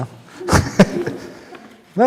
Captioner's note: laughter